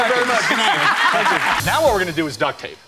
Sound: laughing

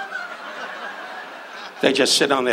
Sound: audience laughs

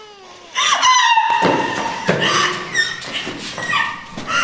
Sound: crying aloud

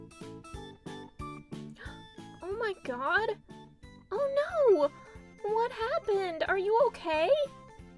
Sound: gasp

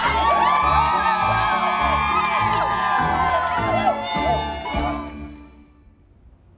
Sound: the crowd cheers

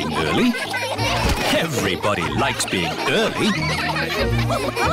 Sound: laughter

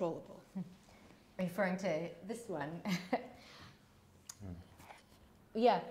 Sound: chuckles

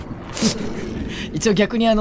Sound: chuckles

